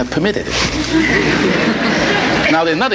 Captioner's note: audience laughing